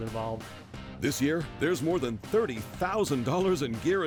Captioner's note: voiceover